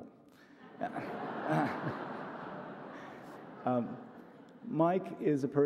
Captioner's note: audience laughs